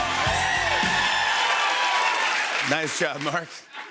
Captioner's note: cheers and applause